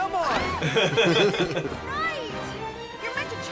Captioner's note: laugh